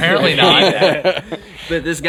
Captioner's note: laughing